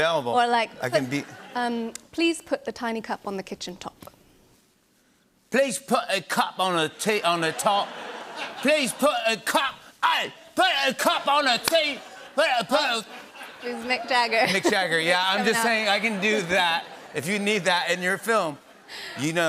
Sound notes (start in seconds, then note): 7.1 laughter; 14.0 normal voice